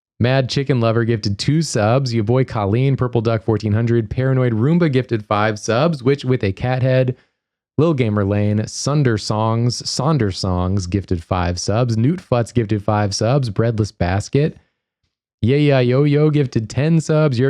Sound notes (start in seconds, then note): none